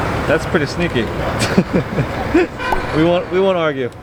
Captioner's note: laughs